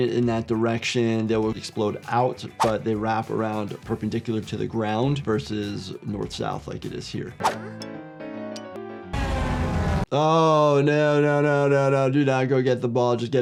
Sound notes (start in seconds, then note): 7.7 upbeat music; 9.6 traffic humming